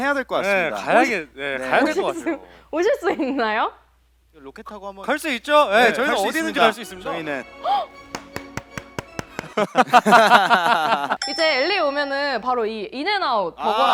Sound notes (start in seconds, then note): 8.0 applause of anticipation